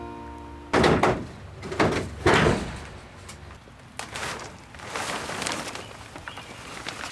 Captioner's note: sound of a man removing a greenhouse panel and poly